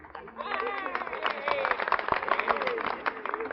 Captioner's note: applause